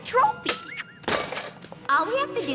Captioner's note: clunk